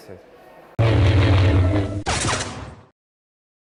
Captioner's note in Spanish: Sonido de láser